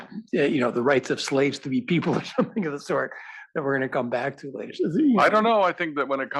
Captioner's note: laugh